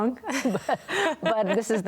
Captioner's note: laughing